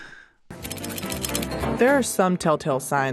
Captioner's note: bright music; metal clicking